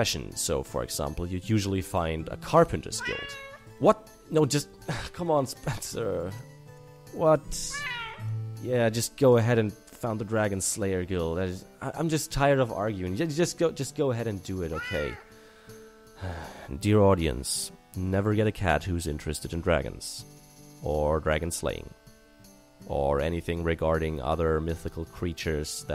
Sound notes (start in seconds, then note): 2.9 meow; 7.6 meow; 14.7 meow; 16.2 sigh